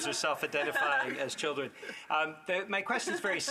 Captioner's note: laughter